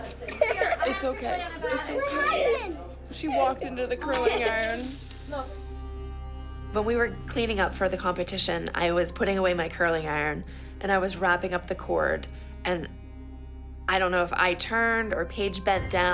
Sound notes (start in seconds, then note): 4.6 sizzling